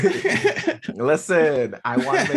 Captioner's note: laughing